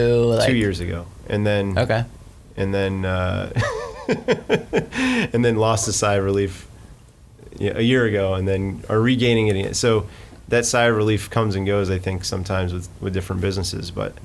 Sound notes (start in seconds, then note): 3.6 laughing